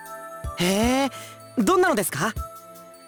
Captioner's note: interested hum